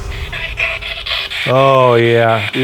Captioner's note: static buzzing